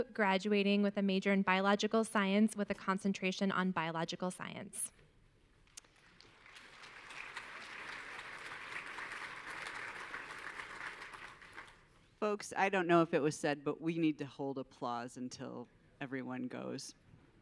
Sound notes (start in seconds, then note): 5.7 audience clapping